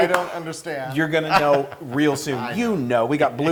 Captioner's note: laugh